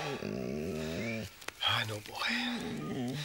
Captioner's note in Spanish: Gemidos